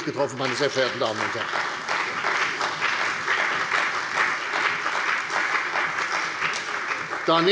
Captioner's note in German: Beifall bei der CDU und dem BÜNDNIS 90/DIE GRÜNEN